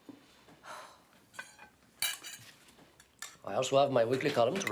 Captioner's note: sighs